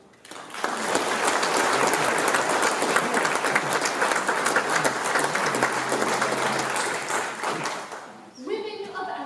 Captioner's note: applause